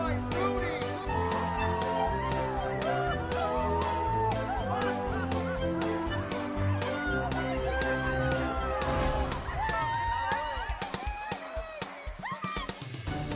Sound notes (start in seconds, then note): 1.3 cheering; 1.3 laughter; 5.1 cheering